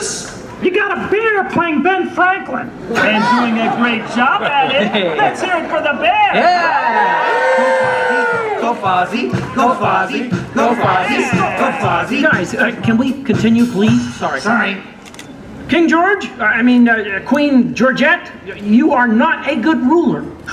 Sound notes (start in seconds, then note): 3.4 audience laughter; 7.2 audience cheers